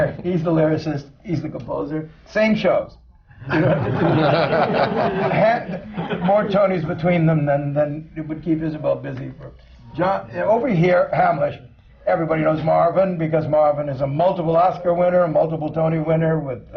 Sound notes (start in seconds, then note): 3.4 laughter